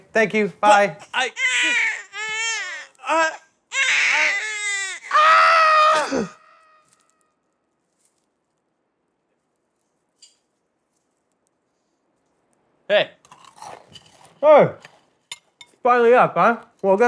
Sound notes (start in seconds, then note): 3.6 crying; 6.0 gasps